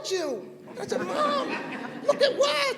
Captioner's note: laughter